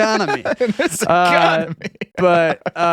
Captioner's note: laughing